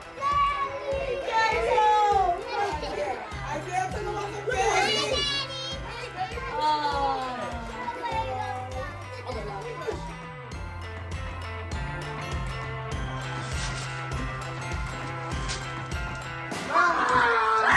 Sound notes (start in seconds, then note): 13.4 wrapping paper ripping; 16.8 soldier screaming